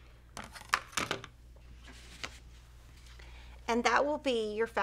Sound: objects clattering

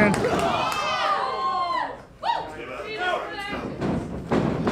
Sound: audience cheering

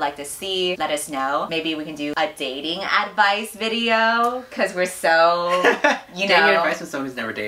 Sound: laughs

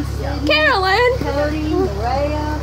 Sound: yelling

